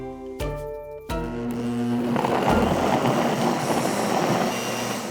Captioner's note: blender whirring